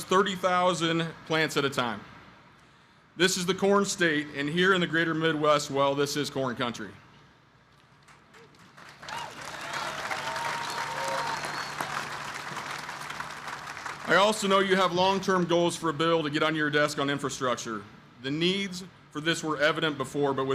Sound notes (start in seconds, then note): 8.0 applause